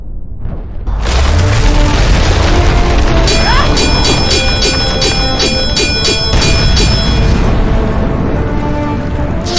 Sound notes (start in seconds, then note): 1.5 explosion booming; 3.4 electricity crackling; 3.4 swords clanging; 6.2 explosion booming